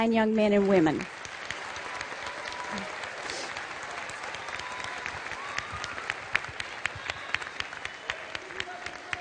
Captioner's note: applause